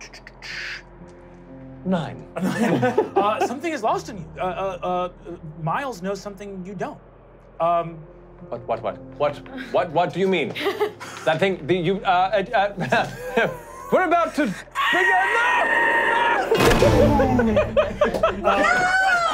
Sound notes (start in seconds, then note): 2.4 laughing; 13.4 stuttering; 14.7 screaming; 16.5 explosion; 18.4 laughing